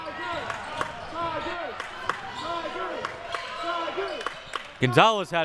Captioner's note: audience chanting